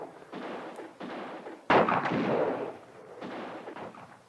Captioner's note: guns fire